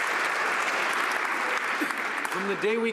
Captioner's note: some Applause